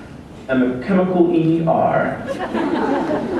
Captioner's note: laughter